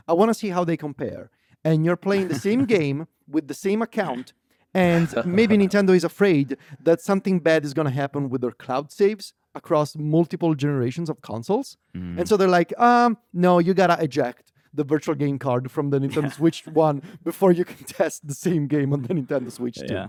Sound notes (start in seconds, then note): 2.2 laughs; 4.8 laughs; 16.1 laughs